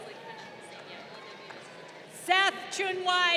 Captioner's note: crowd applauding